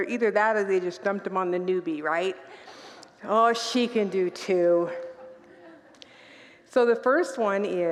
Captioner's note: congregants laugh